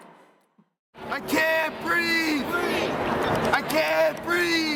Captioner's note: crowd Voices